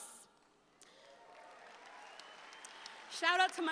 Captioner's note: audience applauds